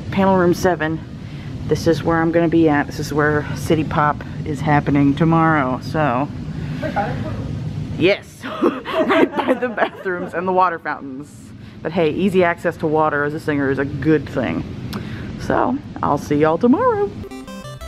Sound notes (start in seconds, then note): 8.5 laughs